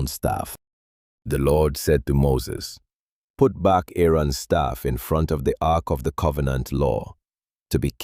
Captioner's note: commanding